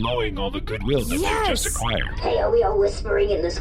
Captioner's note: excitedly